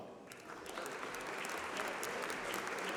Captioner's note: applause